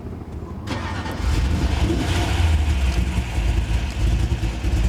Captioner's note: car engine starts